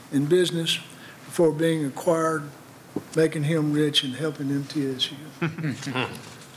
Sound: laughter

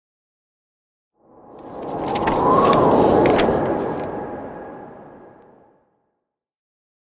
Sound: sound of paper

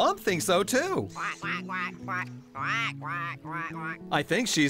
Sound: quacking

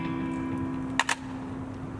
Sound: hangs Up Phone

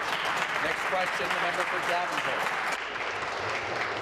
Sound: applause

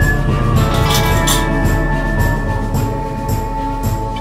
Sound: cat meows; can rattles

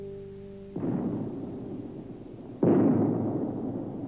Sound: bomb blast

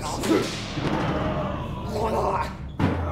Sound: percussion music; groans

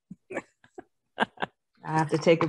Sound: laughs

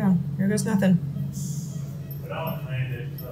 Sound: machine beeping

